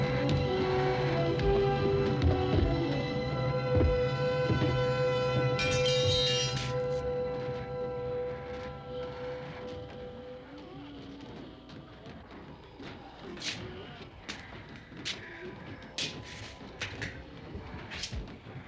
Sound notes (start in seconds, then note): 5.2 metal clattering; 15.0 groaning